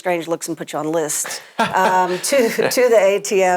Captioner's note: laughs